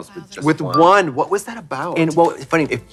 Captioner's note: pause chime; lively spooky music